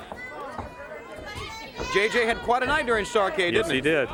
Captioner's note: crowd chatter; crowd cheering